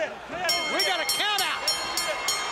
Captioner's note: bell ringing